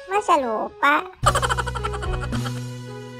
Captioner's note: sound laugh